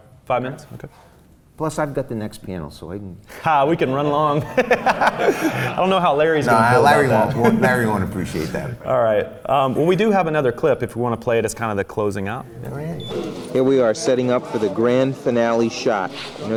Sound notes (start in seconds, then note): 3.7 laughs